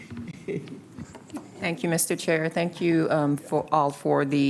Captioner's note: laughter